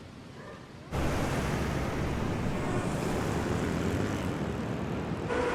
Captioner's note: sound of vehicles passing